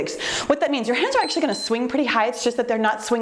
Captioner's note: timer beeps